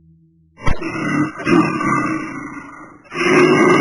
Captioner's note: bear growling